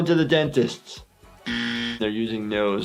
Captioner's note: buzzer buzzes